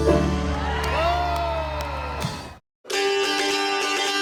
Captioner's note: people cheer; lively dulcimer music